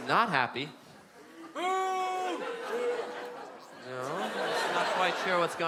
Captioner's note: boos from the crow